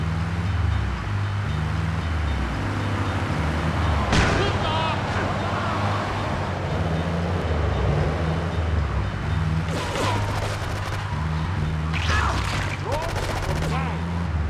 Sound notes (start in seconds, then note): 2.7 gun firing; 2.7 speaking in foreign language; 4.3 yelling